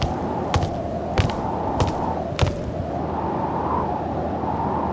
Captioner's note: none